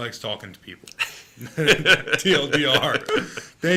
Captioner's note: laughing